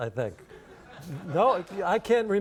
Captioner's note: audience laughs